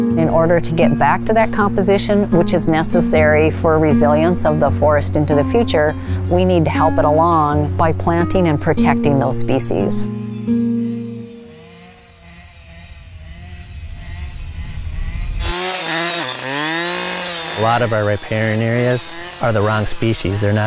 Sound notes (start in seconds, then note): 11.3 saw buzzing